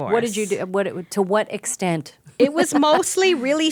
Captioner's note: laughing